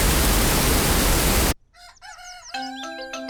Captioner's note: cockerel crows